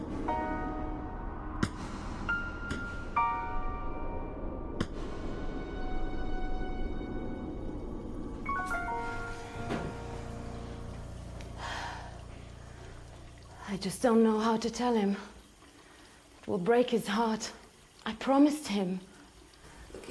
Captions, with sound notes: (smacking) (shower running) - I just don't know how to tell him. It will break his heart. I promised him.